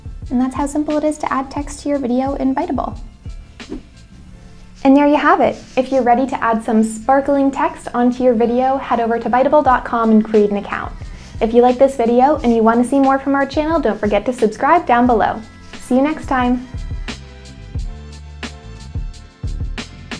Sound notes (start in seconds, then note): 0.0 gentle upbeat music; 3.6 page whooshing; 16.8 gentle upbeat music